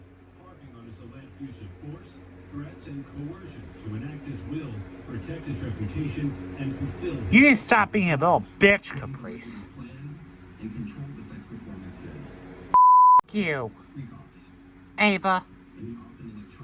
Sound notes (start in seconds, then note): 0.2 continues playing; 6.8 slurred